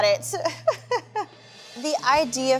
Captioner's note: laughing